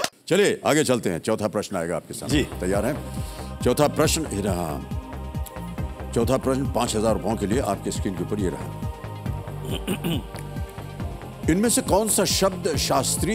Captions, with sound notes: Let's move on. Next is the 4th question. Ready? Here's the 4th question on your screen for Rs 5000. [clears throat]